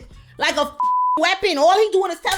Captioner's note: beep